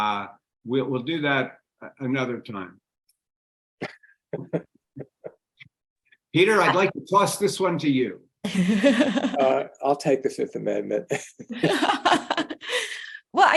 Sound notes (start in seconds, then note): 4.3 laughing; 8.5 laughing; 11.0 laughing